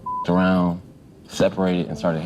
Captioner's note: beep